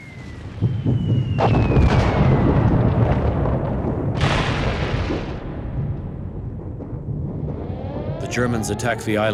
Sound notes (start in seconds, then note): 0.7 bombs explode